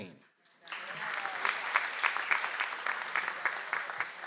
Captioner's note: audience applauds